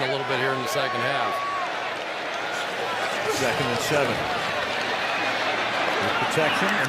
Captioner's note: pa announcement